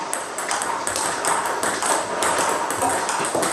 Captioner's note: ball ping pong hitting